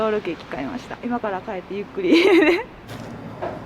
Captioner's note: laughter